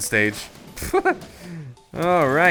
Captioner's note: laughing